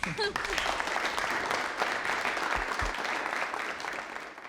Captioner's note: crowd applauding